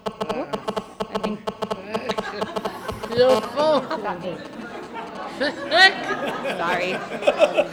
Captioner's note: laughter